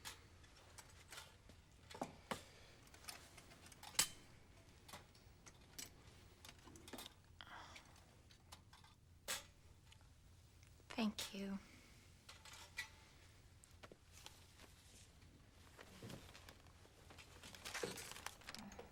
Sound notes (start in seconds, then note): 7.7 whispering